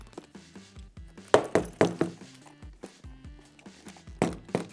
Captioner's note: boots tapping